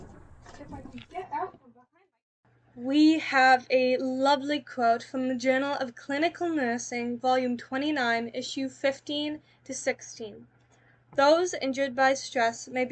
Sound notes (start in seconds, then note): 1.0 girl narrator muffled